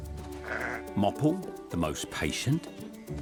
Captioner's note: sheep bleats